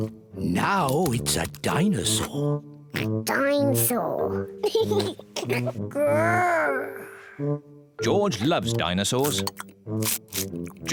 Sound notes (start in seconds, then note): 3.0 oinks; 4.6 laughs